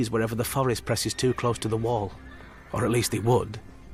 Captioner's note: horse whinnying